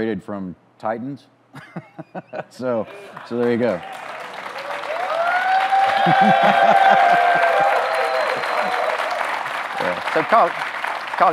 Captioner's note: audience cheers